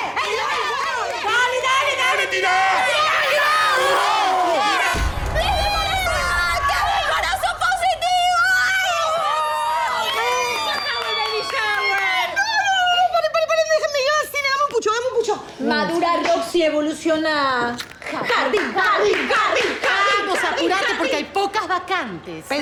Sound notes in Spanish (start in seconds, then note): 5.5 Gritos, festejos; 10.7 Gritos